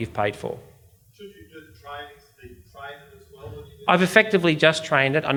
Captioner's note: audience member murmurs